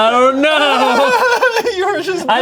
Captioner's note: laughs